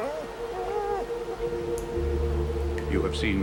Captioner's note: whimpering